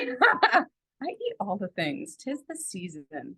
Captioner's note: laughs